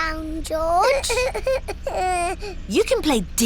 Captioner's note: splutters